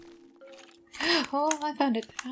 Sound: gasp

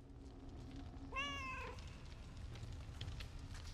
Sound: cat meows

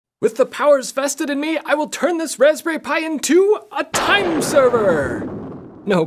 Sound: thunder crack!

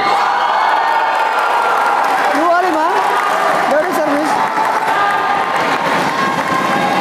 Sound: applause

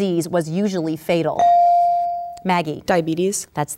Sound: ding

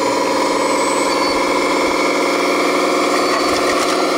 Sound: truck whirring

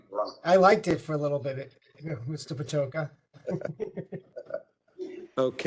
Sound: laugh

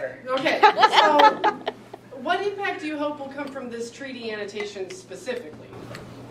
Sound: laughter

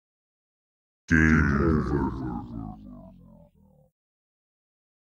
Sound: sound of game over

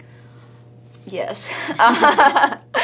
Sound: laughs

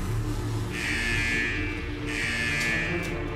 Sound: alarm blaring

